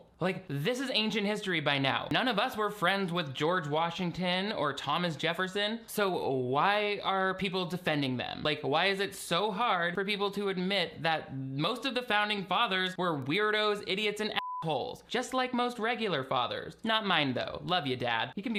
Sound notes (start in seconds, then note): 14.3 beep